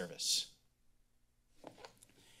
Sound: silence

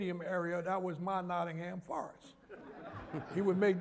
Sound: laughter

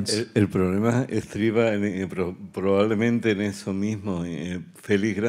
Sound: speaking in Spanish

